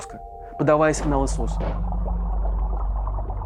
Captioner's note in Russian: приглушённые стуки